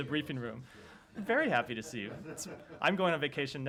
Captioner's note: laughter